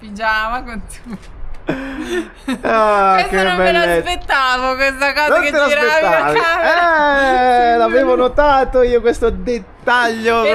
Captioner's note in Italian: risate